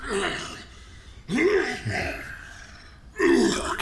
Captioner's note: Cydar coughing